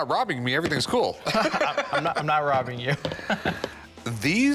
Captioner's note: laughs